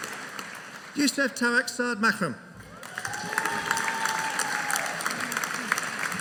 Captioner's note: audience cheering